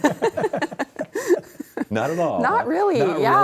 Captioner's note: laugh